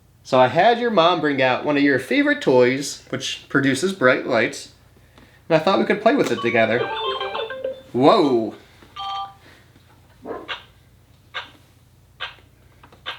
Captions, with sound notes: So, I had your mom bring out one of your favorite toys, which produces bright lights. And I thought we could play with it together. (soft bright music) Whoa. (timer beeping)